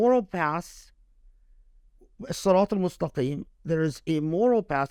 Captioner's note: speaking Arabic